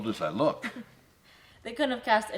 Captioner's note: Isabel chuckles